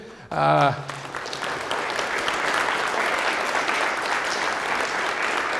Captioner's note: audience applauds